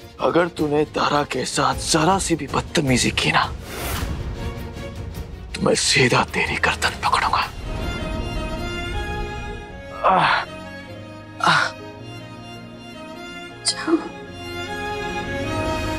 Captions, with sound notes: If you misbehave with Tara even a little bit, I will get a hold of your neck. [Dhruv grunts] Go.